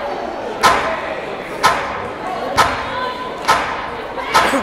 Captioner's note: chattering